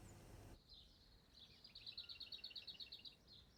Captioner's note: birds singing